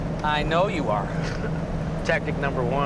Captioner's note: laughs